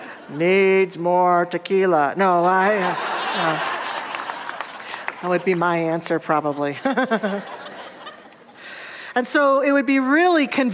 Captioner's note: audience laughter